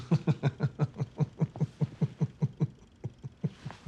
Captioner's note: laughs